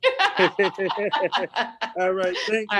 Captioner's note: laughs